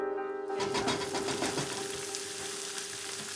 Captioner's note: sizzling